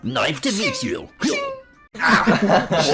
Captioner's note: mouth knife sounds, pathetic groaning; audience laughs